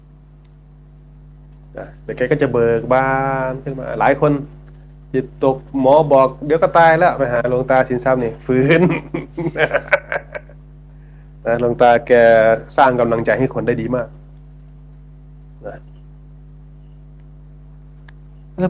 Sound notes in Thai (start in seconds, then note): 8.2 เสียงหัวเราะ